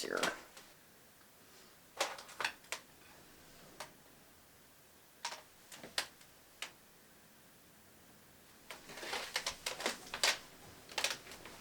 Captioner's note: silence